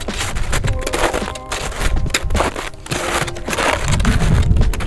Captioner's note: icey footsteps crunching